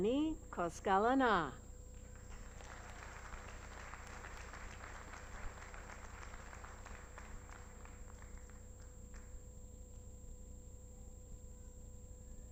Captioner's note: applause